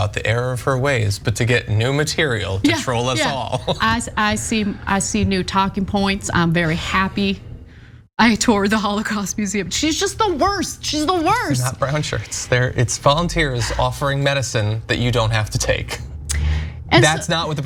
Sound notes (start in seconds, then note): 2.6 laugh